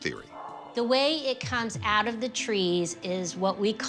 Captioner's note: strain